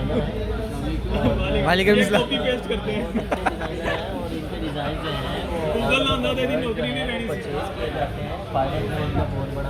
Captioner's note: lols